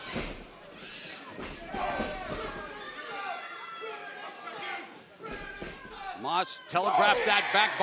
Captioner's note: crowd chatter